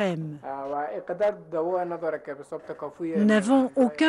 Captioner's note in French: en langue étrangère